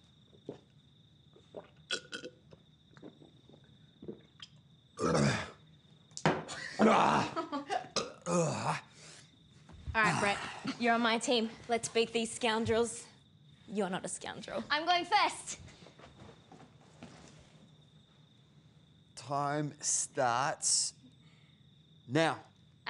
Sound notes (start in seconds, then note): 4.8 laughter; 5.0 grunting